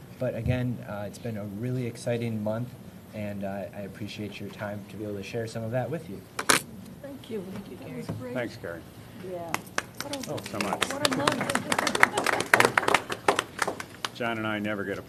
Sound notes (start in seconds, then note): 9.5 applause